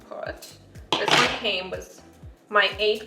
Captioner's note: cooking utensil clattering